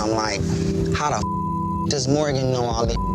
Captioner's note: beep